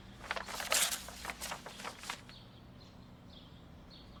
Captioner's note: paper rustling